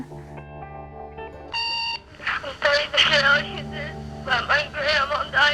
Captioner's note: answering machine beeping